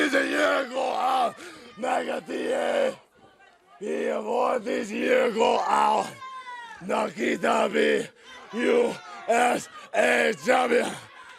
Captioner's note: speaking in foreign language